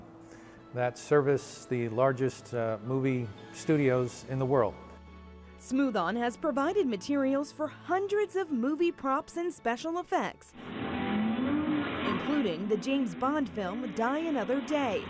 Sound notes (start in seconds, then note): 10.5 engine revving